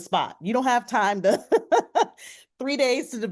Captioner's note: laughs